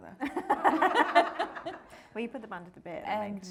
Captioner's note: all laughing